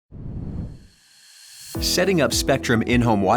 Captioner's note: air whooshing